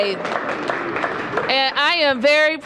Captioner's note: applause